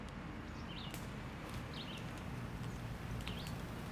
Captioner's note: bird chirping